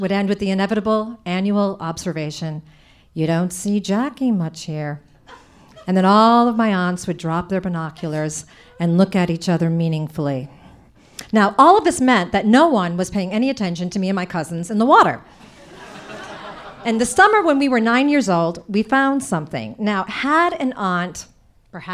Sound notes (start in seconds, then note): 15.4 audience laughing